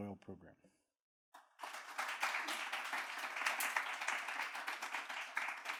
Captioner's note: audience clapping